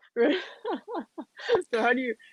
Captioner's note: laughing